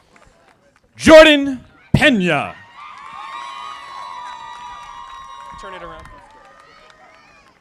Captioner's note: audience applauding; audience applauding